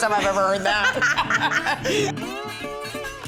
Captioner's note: laughter